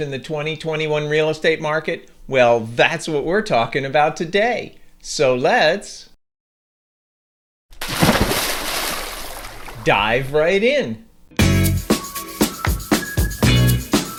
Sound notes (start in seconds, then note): 7.7 water splashing; 11.3 upbeat music